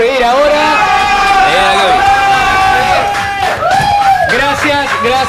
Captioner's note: cheers and applauses